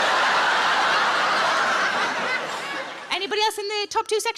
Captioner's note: audience laughs